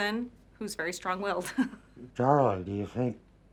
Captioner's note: laughing